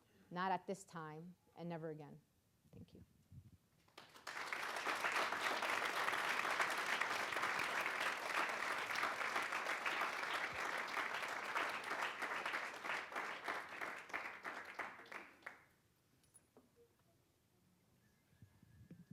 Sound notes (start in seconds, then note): 3.9 audience applauding